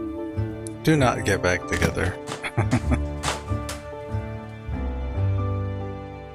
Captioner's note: chuckling